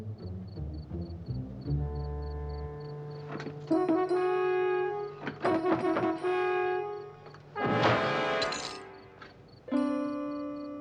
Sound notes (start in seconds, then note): 8.4 clinking